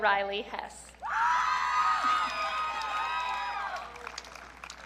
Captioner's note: audience cheering